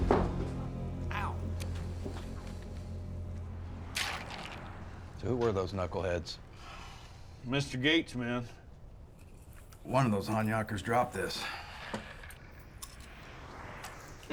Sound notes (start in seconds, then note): 3.9 ice sloshes